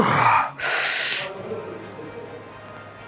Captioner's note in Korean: 헉 소리; 한숨